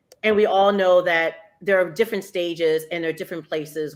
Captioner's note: none